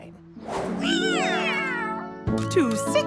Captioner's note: meowing